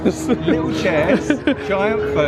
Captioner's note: laughs